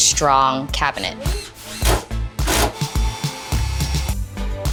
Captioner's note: drill buzzing